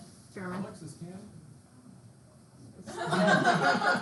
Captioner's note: in foreign language; laughs loudly